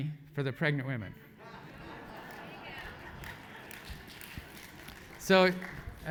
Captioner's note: laugh; applause